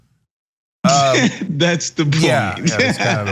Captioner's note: laugh